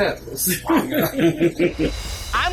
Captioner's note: both laugh